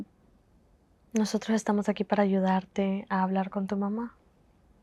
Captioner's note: Spanish